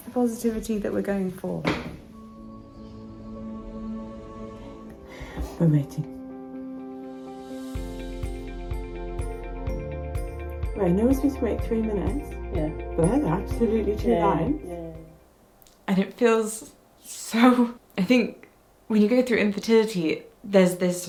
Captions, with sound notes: - That's the positivity that we're going for. (object clatters) (gentle music) We're waiting. (intriguing music) (bright music) Right, now we're supposed to wait three minutes. - Yeah. - Well, absolutely two lines. - Yeah, yeah. - And it feels so, I think, when you go through infertility,